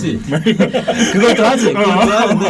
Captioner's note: laughing